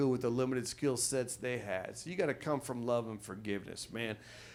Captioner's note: none